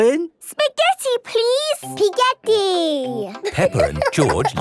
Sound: laughing

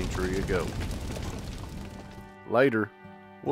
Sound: fire blazing

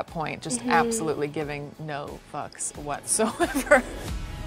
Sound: laughs; dramatic music

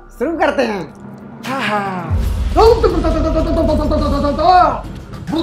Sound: reciting Mantra

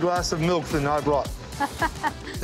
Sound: laughter

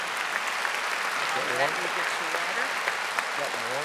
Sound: audience applauding

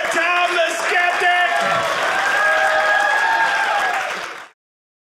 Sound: audience cheering

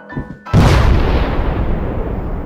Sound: boom

